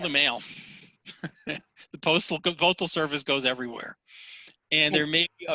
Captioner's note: laughs